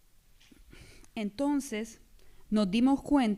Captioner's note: speaking spanish